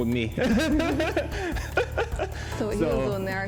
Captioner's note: laughs